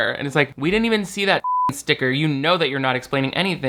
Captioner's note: beep